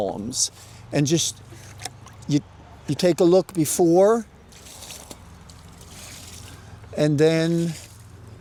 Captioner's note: water sloshing